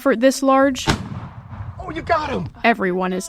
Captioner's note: gun fires